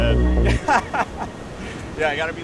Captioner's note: laughs